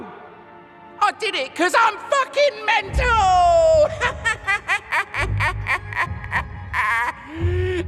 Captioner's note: cackles